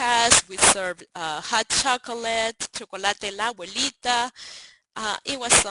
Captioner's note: speaks Spanish